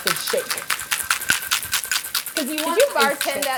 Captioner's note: ice rattles